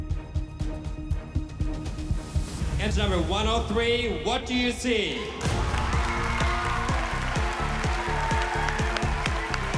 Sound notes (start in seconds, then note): 5.2 audience cheers, applauds